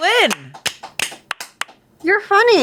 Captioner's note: clap